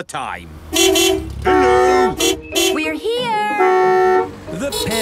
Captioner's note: beeping